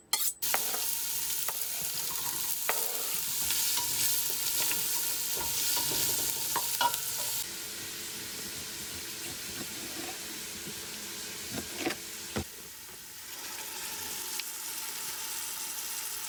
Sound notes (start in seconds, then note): 0.8 onions sizzling